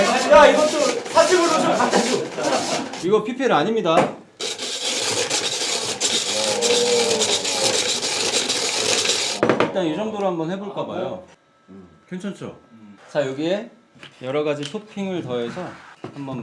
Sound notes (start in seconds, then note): 6.2 ice being shaved nice and smooth